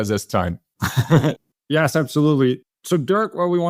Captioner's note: laugh